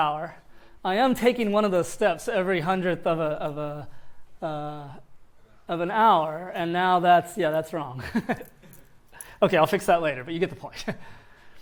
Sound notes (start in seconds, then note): 8.0 laughter; 11.2 laughs